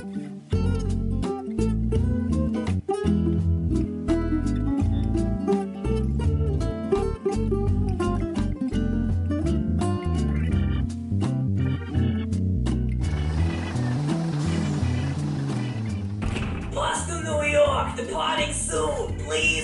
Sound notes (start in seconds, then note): 12.6 bus pulls up outside; 16.1 door slams open